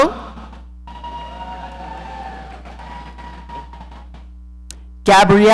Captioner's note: audience cheering